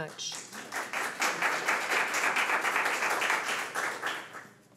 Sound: audience applauding

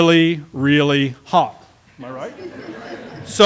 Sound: laughter

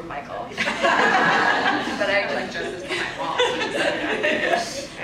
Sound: audience laughs

